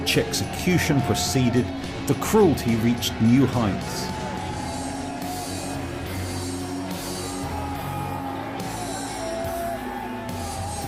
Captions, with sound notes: As each execution proceeded, the cruelty reached new heights. (screams) (guitar music)